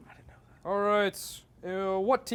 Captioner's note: mumbling